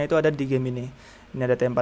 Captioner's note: inhale